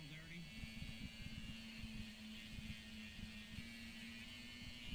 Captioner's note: sander running